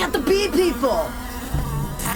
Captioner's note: a bzzzt